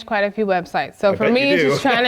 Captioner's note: laugh